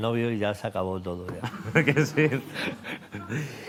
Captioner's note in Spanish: Risas